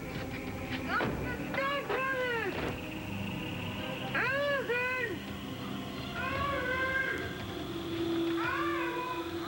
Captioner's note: roxy mumbles